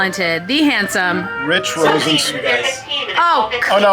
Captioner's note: faint talking over radio